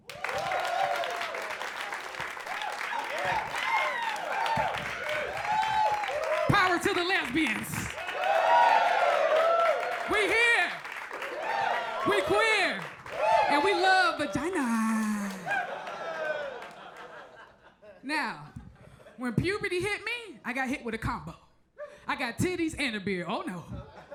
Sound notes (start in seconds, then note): 0.1 crowd applauds; 0.1 crowd cheers; 8.1 crowd applause continues; 8.1 crowd cheering continues; 15.5 crowd cheers; 15.5 crowd laughs; 23.7 crowd laughs